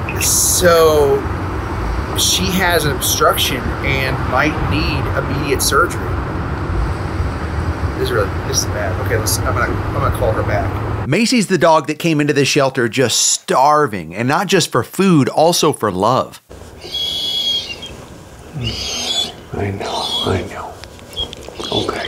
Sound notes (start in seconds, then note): 16.7 Macy whimpering